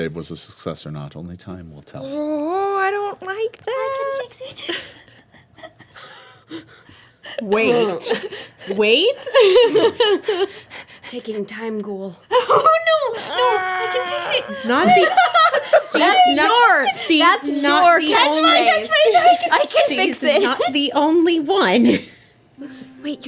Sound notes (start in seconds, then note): 9.8 laughing; 13.1 moaning; 14.9 laughing